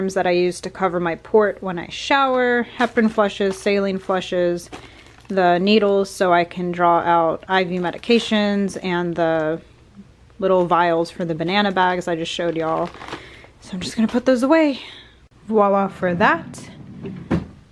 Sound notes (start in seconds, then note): none